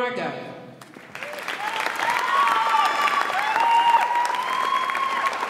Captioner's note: audience applauds and cheers